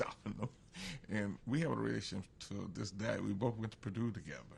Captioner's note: laughs